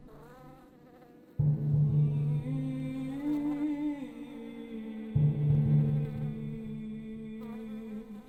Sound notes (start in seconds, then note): 1.8 singer vocalizing; 2.2 flies buzzing